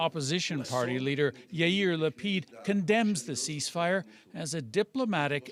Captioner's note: speaking alternate language